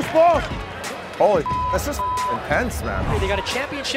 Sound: beeps

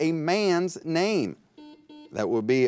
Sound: buzzer beeps

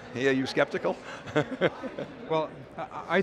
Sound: laughs

